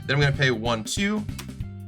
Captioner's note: counting